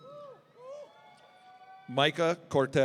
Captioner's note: audience cheering